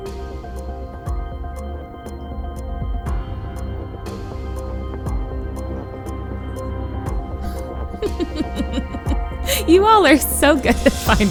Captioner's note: laughs